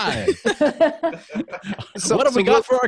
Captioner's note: laughing